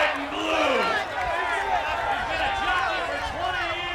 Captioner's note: applause